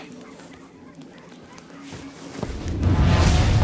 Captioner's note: dogs barking